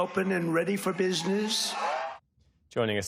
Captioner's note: cheering